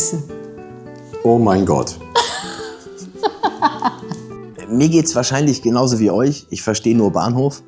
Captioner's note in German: gelächter